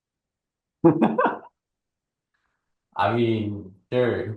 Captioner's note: laughing